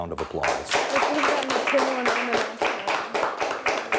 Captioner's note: crowd applauds